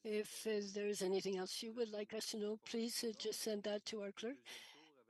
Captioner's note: speaking French